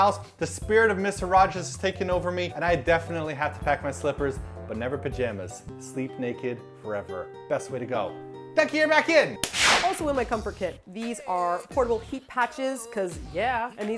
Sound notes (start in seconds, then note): 9.4 slap